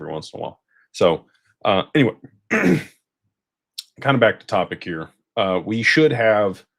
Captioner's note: clears throat and cough